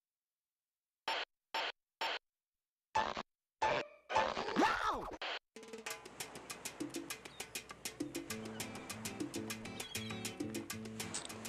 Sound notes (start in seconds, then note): 0.9 radio buzzing